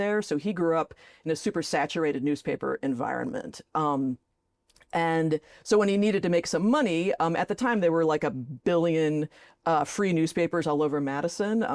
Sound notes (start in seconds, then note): none